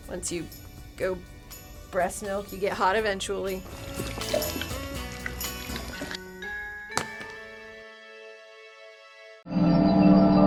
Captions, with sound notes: once you go breast milk, you get hot eventually. (liquid splashing) (marker thudding) (peaceful music)